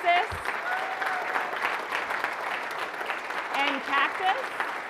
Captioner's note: audience applauding